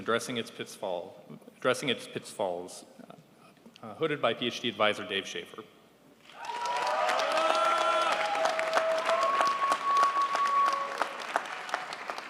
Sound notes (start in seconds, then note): 6.2 crowd applauds